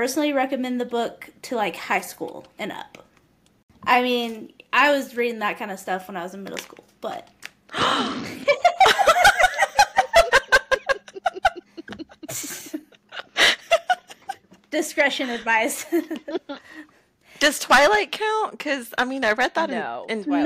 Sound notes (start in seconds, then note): 13.2 gasps; 14.6 laughter